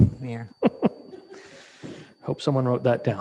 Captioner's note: chuckles